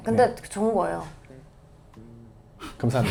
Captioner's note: brief silence